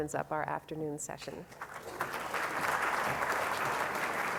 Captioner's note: applause